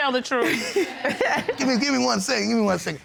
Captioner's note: laughing